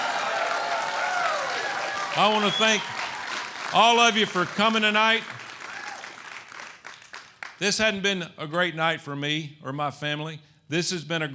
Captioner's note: applause